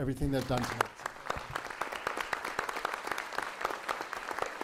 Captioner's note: applause